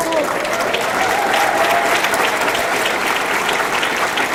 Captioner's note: audience cheering